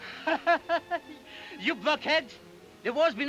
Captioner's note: laughs